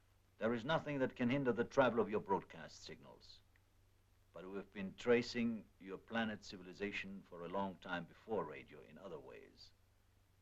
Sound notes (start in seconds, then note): none